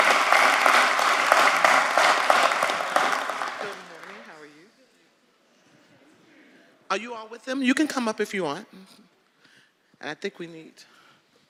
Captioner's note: applause